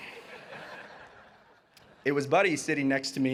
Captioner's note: audience laughing